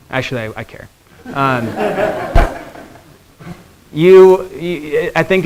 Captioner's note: students laughing